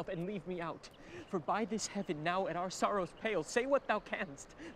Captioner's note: none